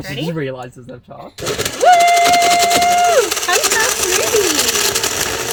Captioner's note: blender clattering